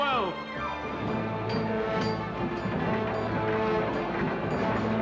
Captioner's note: weapons clanging